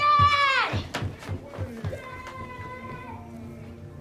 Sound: yelling

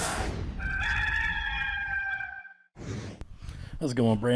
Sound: rooster crows

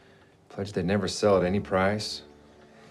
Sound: none

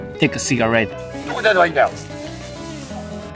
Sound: thief speaks in japanese

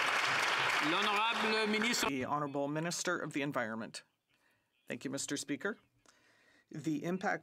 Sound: some Applause

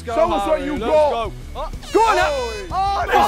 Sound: horn blowing

